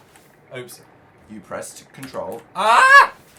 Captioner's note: calmly